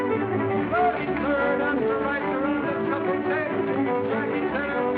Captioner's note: hollering